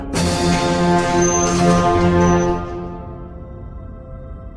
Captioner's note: door closing sounds; mysterious music